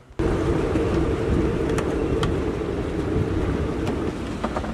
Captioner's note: wind whooshing